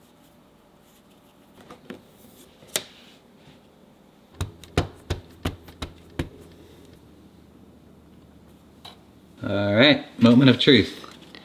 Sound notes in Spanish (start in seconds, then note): 4.3 sello golpeando